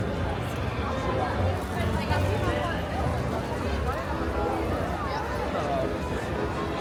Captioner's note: low hum of chatter; gentle music